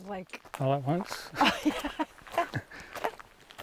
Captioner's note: both laugh